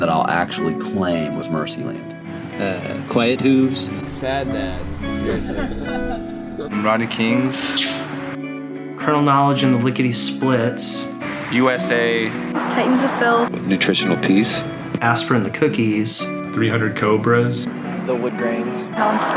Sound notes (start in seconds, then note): 5.4 laughing